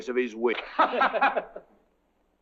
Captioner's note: laughing